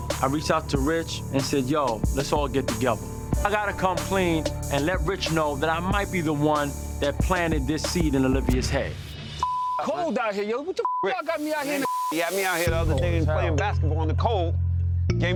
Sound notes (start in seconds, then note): 9.4 beep; 11.5 beep